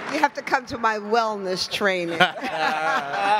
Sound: laughs

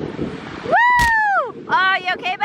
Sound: cheering

